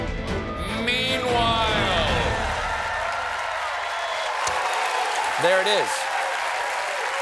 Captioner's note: applause